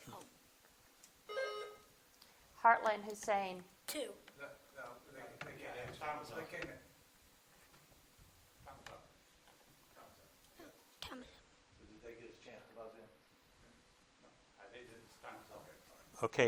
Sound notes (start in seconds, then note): 1.3 buzzer dings